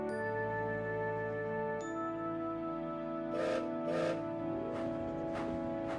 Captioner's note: gilbert whistles